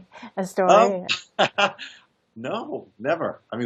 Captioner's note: laughs